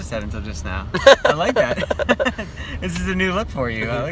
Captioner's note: laughs